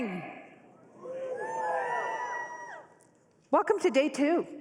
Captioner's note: cheering